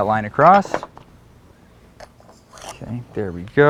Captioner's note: pencil scarring wood, no additional audio